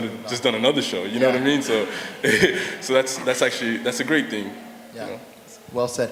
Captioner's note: laughter